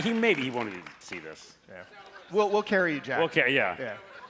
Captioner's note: cheers and applause